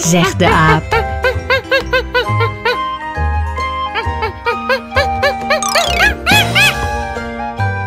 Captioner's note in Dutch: je hoort het geluid van de aap